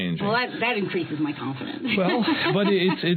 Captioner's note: laughter